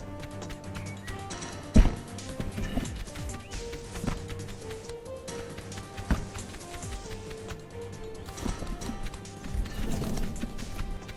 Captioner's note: goose footsteps